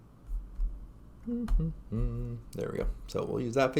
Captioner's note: humming